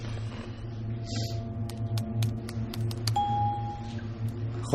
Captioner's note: typing